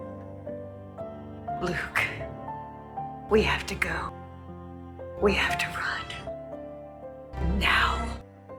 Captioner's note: voiceover